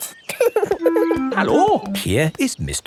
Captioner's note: laughing